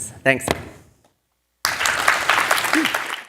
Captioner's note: applause